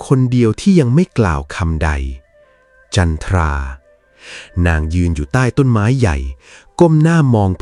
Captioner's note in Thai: เสียงสูดหายใจ